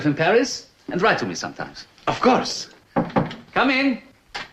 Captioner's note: knocking